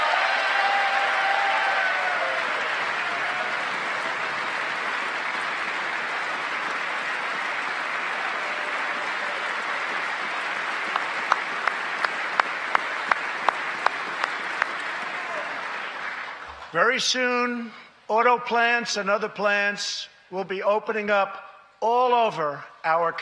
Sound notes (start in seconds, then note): 5.9 cheers and applause; 15.0 applause